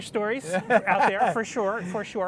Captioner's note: both laughing